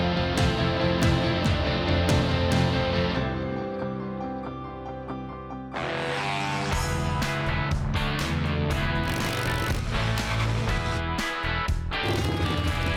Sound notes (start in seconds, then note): 6.0 engine roaring; 7.1 rock music; 9.2 motorcycle engine revving